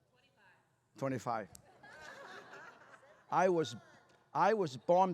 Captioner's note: laughter